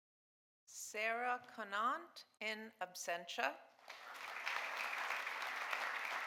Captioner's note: audience applauding